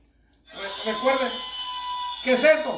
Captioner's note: rooster crowing